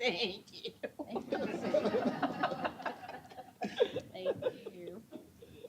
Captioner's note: laughter